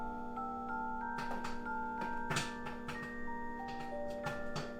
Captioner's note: microwave humming; popcorn popping